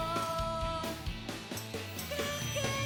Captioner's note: feedback